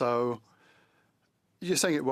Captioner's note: speaking French